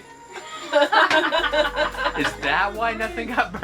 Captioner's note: laughing